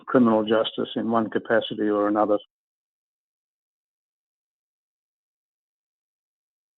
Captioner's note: audio drops